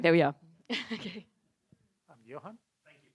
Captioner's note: chuckles